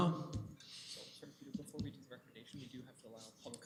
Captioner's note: comments off mic